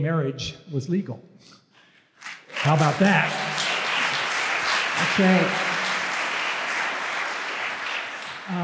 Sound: applause

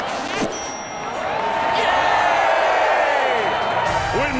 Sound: cheering

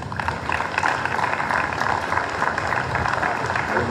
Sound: applause

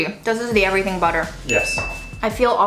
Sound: dinging

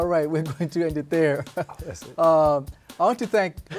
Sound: laughing

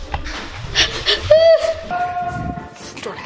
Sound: hyperventilates

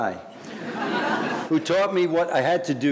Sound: audience laughing

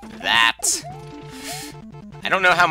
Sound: inhaling

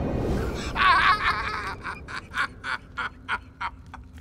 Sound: laughs

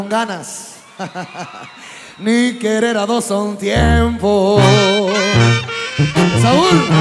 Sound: laugh

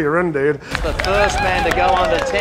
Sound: audience cheering and applauding

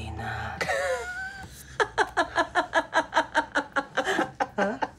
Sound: laughing

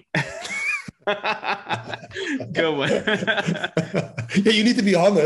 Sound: laughing

